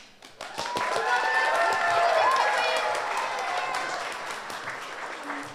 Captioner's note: audience applauds